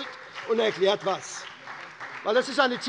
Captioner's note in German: Beifall bei der SPD